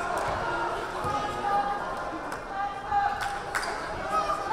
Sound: crowd

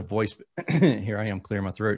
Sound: clears throat

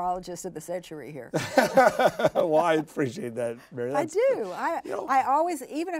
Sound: laughs

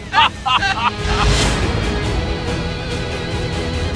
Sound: laughing

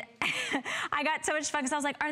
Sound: laughter

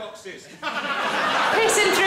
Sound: audience laughs

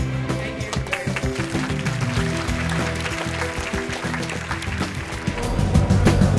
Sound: applause; intense music

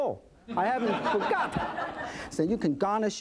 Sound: laughs

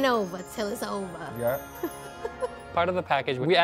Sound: laughs

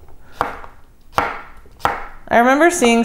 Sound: chopping on a cutting board

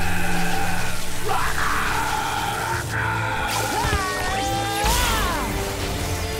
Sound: screaming

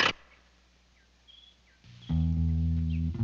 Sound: birds chirping; gentle instrumental music

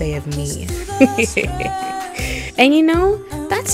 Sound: laughs

